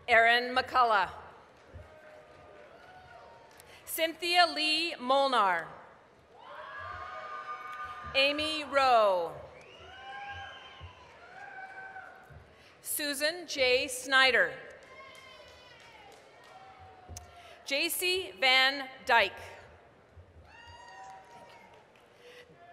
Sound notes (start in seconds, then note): 1.3 applause, cheering; 6.2 applause, cheering; 9.4 applause, cheering; 14.7 applause, cheering; 20.5 applause